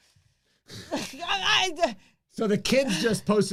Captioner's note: gibbers